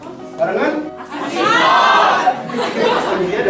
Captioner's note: laughing